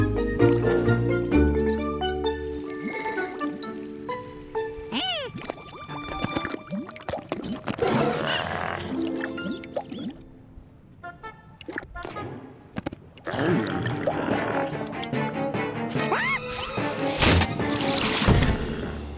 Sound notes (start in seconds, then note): 8.2 duck squeaking; 16.0 scream